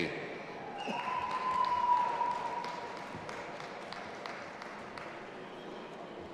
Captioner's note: audience applauding and cheering